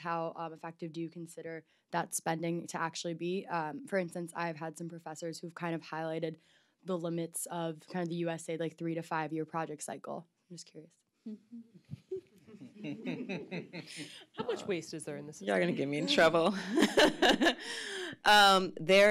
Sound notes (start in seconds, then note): 11.3 laughs; 16.5 laughs